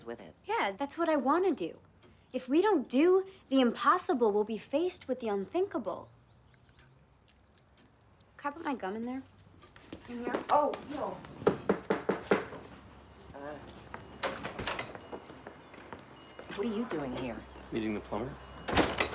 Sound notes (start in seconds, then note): 11.4 knocking